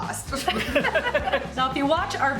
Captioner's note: laughter